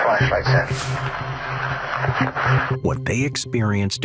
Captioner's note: suspenseful music; radio static crackling